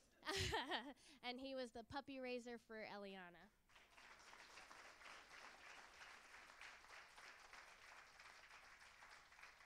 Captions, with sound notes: Bruce is an Air Force veteran, and he was a puppy raiser for Elliana. (Applause).